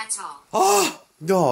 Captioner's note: scream